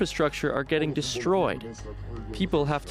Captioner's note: speaking alternate language